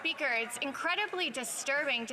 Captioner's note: some Applause